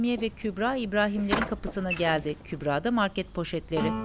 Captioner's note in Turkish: Kapı açılma sesi